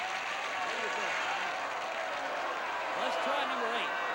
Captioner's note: audience applauding